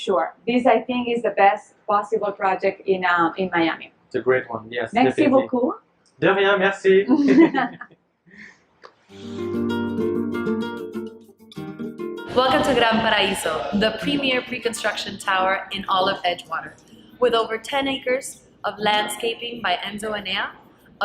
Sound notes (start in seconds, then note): 7.0 laughing; 9.2 upbeat instrumental music